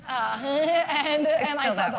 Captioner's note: laugh